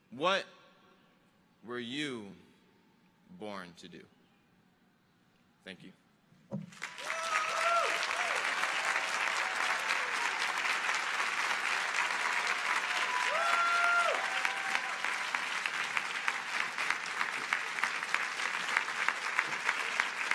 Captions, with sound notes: What were you born to do? Thank you. (audience applauding)